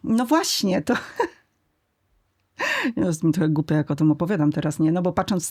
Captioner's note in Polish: śmiech